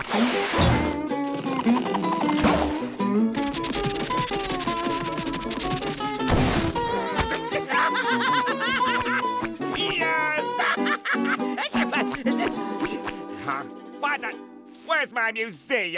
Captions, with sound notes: [laughing] Yes. [laughing] Huh? What the? Where's my museum?